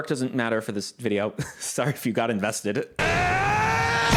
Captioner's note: laughing